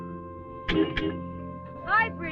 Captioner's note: horn blaring